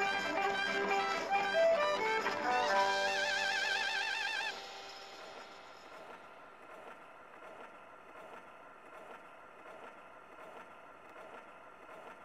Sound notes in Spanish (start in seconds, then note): 5.9 la música termina; 7.2 disco girando